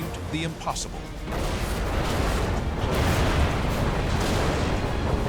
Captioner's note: explosions